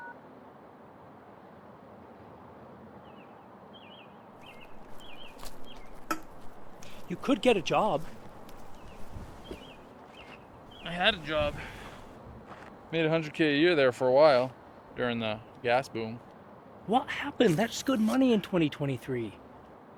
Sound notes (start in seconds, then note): 3.0 birds chirping